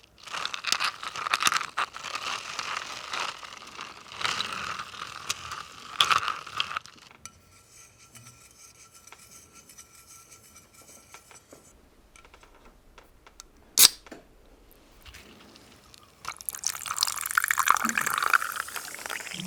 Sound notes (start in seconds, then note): 0.3 ice clacking; 7.3 metal scraping; 13.7 soda opening; 16.6 soda pouring